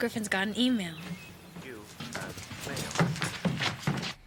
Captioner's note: voice from computer